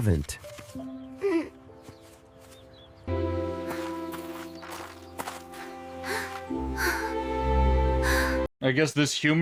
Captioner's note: sighs and gasps